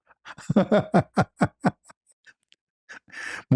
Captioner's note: ketawa